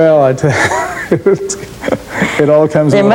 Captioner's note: laughs